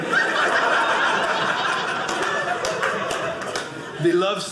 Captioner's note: audience laughing